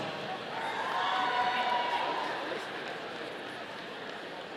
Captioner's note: audience cheering